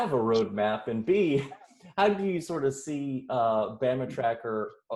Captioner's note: chuckles